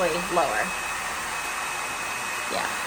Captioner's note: dryer whirring